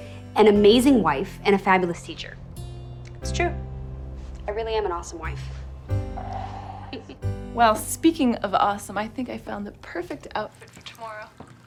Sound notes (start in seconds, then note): 6.2 laughs